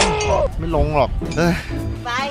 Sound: sighs

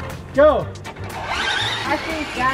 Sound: cars whirring

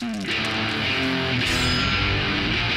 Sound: intense rock music; clang

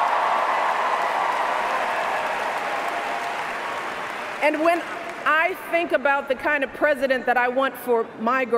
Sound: cheers, applause

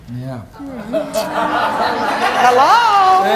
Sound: audience exclaiming

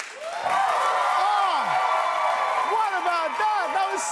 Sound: applause

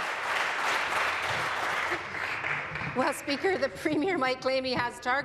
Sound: applause

